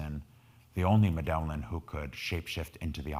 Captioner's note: speaking in foreign language